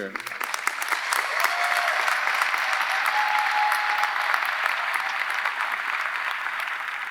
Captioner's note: audience applauding; audience cheering